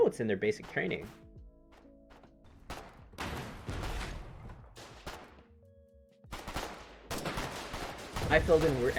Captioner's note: scattered gun fire, hesitant but growing in intensity